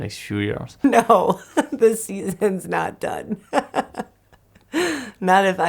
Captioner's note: laughs